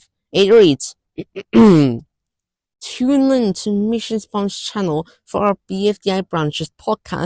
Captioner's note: clears thorat